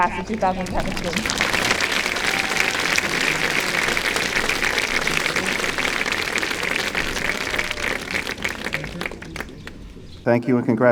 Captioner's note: applause